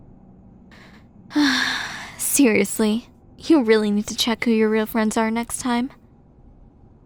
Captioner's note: sigh